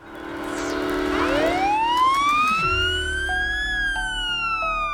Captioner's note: sirens wail